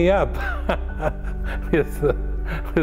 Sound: laugh

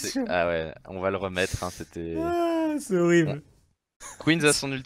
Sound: laughs

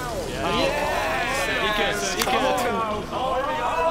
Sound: cheering

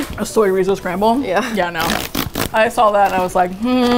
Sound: laughs

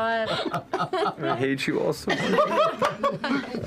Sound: laughs

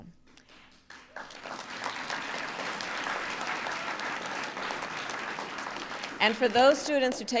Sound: applause

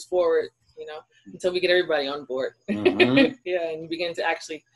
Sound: laughs

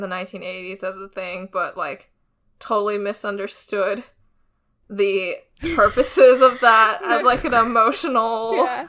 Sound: both laugh

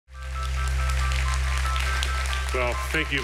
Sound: audience applauding

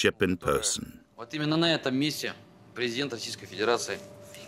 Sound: Russian spoken audio

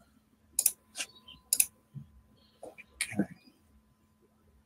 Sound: mouse clicking

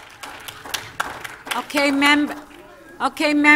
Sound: applause

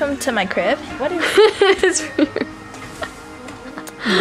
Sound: laughs

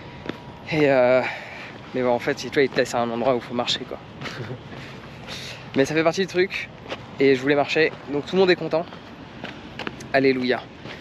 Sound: speaking in foreign language; crunching

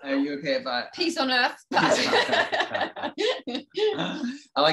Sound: both laughing

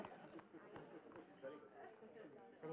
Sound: crowd chattering

